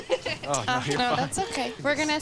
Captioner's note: owner laughs